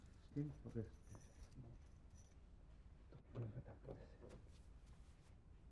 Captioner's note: man speaking unknown foreign language